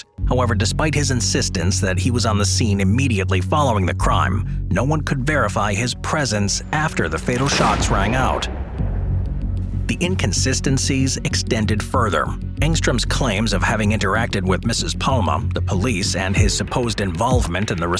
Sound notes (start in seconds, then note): 7.2 gun fires